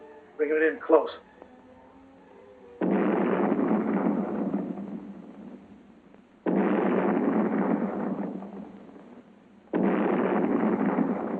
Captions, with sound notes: Bring it in close. [explosions booming]